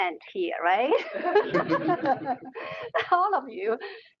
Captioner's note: all laughing